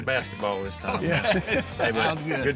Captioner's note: laughter